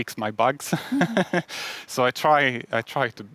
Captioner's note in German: lacht